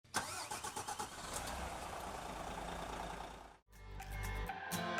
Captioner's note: engine starting and purring; upbeat music